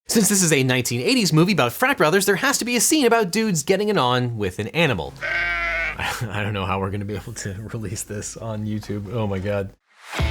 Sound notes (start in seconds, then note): 5.2 sheep bleats